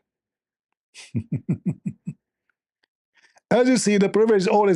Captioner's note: Ketawa